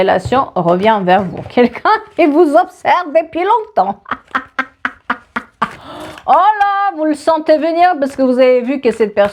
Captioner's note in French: rires